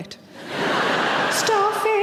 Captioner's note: audience laughing